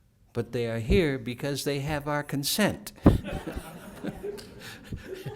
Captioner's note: laughter